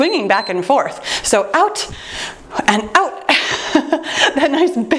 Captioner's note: timer beeps; laughing